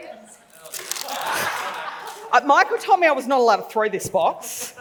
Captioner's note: laughs